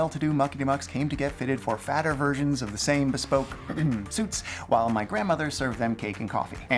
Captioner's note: ahem